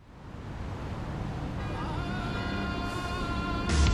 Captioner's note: cars humming; horn beeping